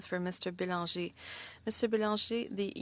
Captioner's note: speaking French